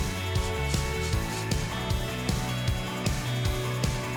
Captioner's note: tool whirring